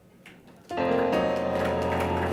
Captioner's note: applause